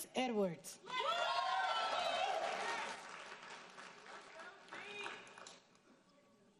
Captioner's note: audience cheering and applauding